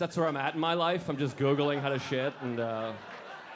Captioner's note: audience laughing